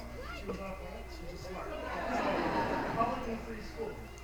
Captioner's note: light chatter; attendees laughing